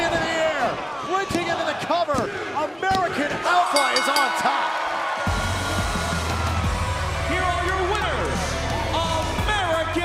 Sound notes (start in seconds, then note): 5.2 bell ringing